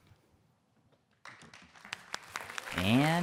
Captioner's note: audience clapping